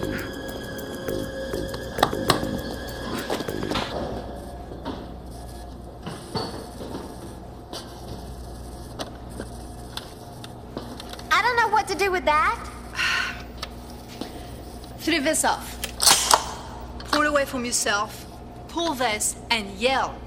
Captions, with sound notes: - I don't know what to do with that. - (sighing) Flip this off, pull it away from yourself, pull this, and yell.